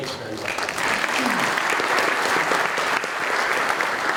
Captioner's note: applause